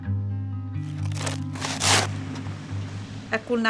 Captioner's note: shovel scraping